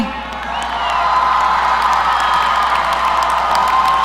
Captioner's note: audience cheering